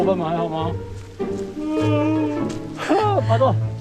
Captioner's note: animal roar?